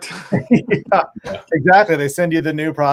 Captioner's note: all laugh